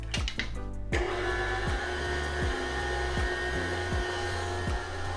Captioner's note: blender churning